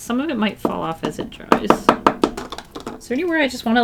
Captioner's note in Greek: Χτύπημα